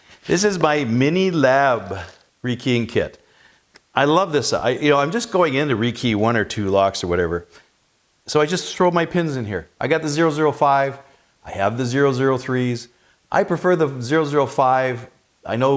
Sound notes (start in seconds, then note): none